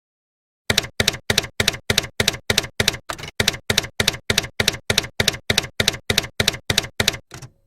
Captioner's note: typewriter keys clacking